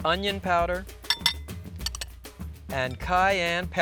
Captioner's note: glass bowl clanking